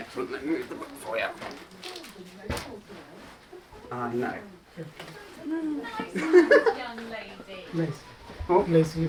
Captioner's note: laughs